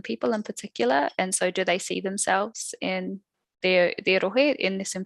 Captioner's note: non-english speech